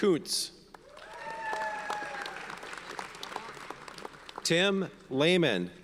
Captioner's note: audience cheers and applauds